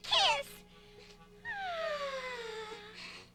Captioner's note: sighing